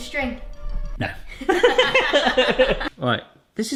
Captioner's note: everyone laughing